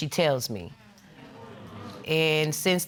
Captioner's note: audience murmuring